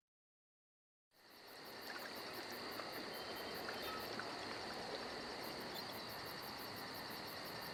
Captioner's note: insects chirping; ocean waves crushing